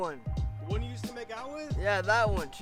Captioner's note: Jinxie chuckles